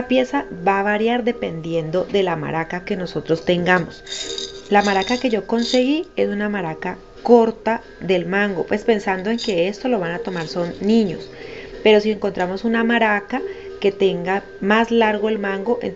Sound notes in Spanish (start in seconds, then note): 3.8 sonajero